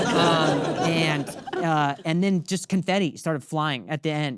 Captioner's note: audience laughing